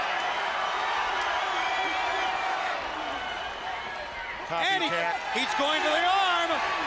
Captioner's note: crowd chatter